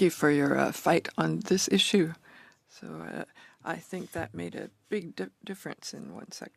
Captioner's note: speaking French